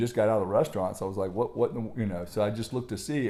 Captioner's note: murmurs